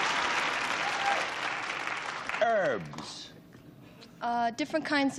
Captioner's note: applause